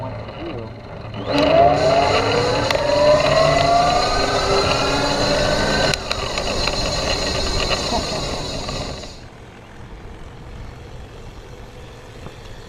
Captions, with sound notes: but once you do-- (engine roars) (pedals creak)